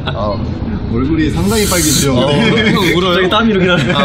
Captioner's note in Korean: 웃음